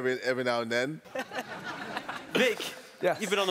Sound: laughing

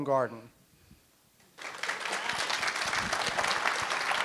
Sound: applause

